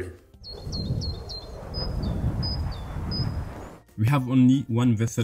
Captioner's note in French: les oiseaux sifflent